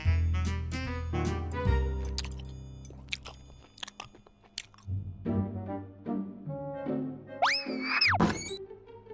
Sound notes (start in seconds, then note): 2.8 chewing noises